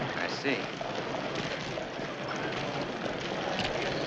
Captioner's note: fire crackling